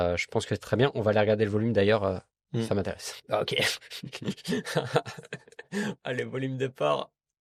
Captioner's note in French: rires